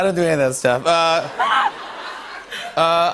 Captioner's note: laughter